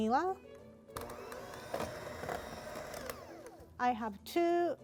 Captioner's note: mixer whirring